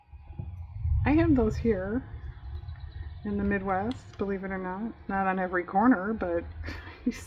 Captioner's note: laughs